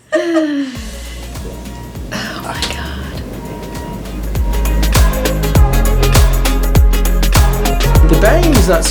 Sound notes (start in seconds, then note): 0.1 laughing; 1.3 beep